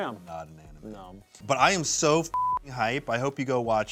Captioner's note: beep